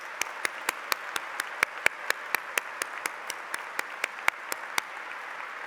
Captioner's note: applause